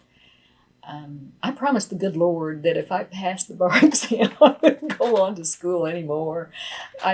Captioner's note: laughs